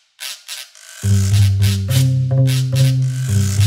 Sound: none

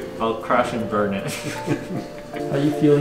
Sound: both laughing

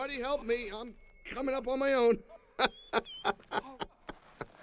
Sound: laughs

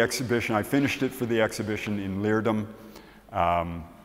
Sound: none

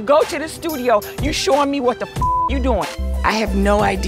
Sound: beep

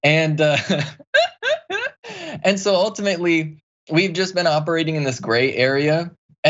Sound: laugh

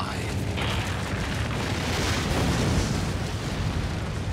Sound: eruption

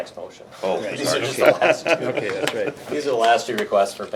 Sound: laughs

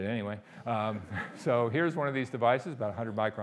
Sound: audience laughing

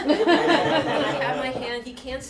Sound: laughter

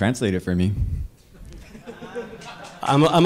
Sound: audience laughter

